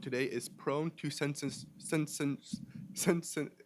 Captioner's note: stutters